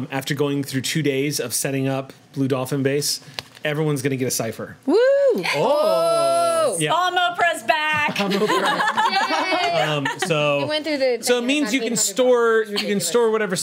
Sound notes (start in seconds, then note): 4.9 group cheers; 8.0 group laughs